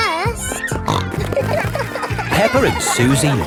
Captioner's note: snorting